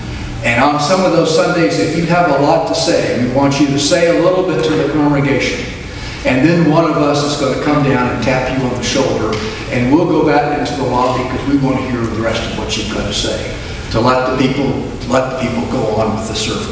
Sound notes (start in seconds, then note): none